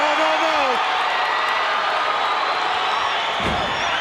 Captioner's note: crowd cheering